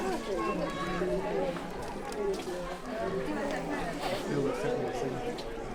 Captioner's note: crowd speaking foreign language